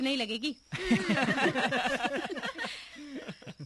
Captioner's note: all Laughing